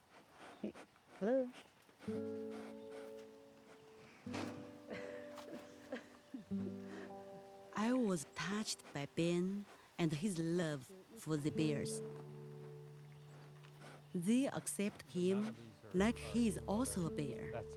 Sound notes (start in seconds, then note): 2.7 cub sniffing and huffing; 4.8 Hou chuckles